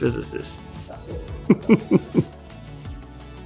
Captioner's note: laughs; upbeat music